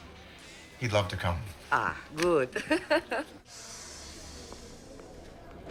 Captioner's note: chuckles